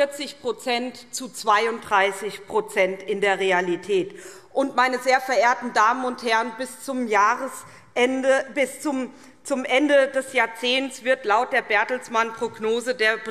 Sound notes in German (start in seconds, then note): none